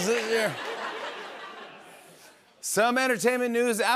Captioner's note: laughter